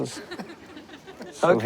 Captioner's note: crowd laughs